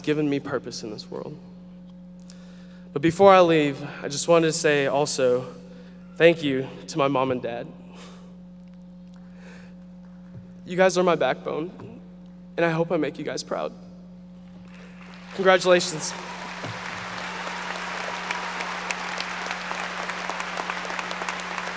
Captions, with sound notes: who has given me purpose in this world. But before I leave, I just want to say also, thank you to my mom and dad. You guys are my backbone, and I hope I make you guys proud. Congratulations. (audience applauding)